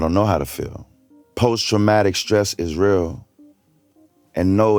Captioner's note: reciting poetry